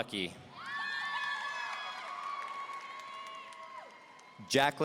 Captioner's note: audience cheering